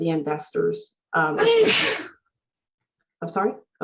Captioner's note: sneezes